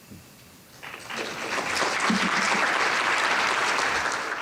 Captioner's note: applauding